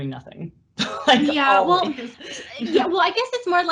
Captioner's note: laughs